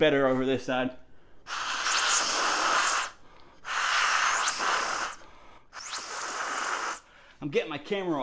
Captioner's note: air whistles